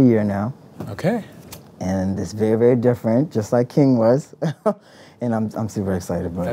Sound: laughs

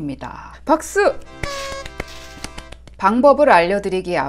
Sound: clap clap clap

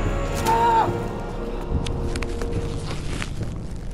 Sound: shouting; dramatic instrumental music

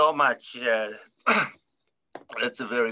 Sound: clears throat

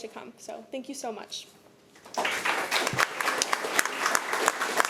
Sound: applause

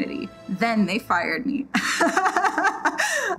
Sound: laughs

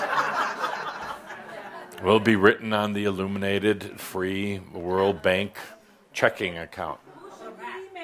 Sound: laughter

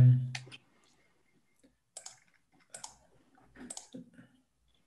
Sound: mouse clicking

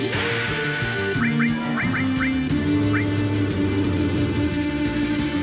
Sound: epic music; console beeps

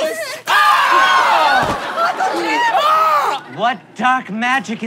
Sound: screams

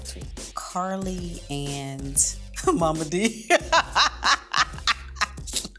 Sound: laughs

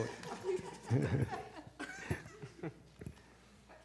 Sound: laughter

